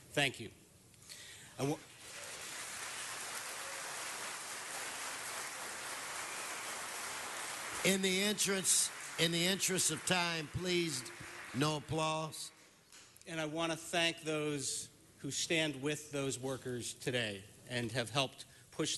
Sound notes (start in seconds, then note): 4.9 applause